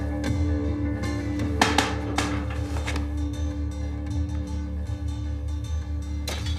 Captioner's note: item Clatters